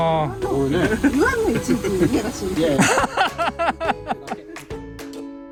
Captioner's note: laughs